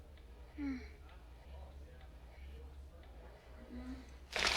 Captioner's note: groaning softly